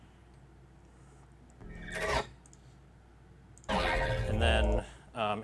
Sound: edited sounds

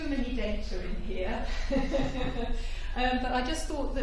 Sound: laughter

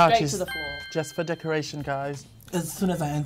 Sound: right answer buzz

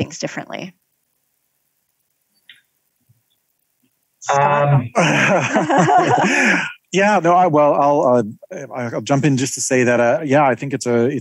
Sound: laugh

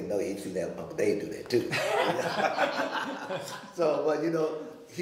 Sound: all laughing

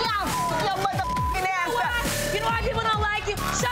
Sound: shouting; beep

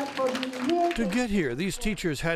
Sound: clapping

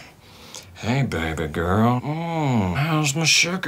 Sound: sultry voice

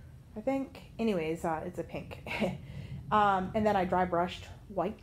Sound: giggles

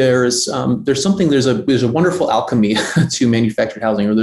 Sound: laughs

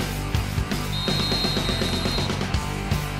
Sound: whistle

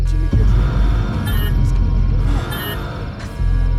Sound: alarm

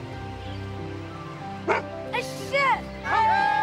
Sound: barking

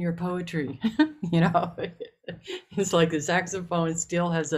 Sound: laughing

